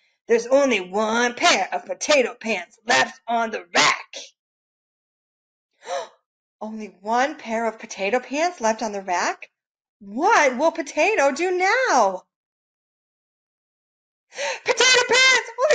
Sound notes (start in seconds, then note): 5.8 gasps